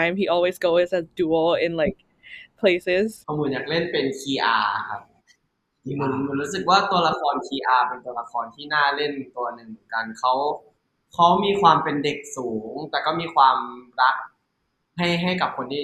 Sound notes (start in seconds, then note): 4.6 answering in Thai